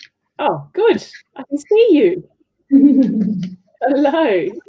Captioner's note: laughs